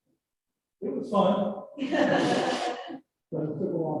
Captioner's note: laughter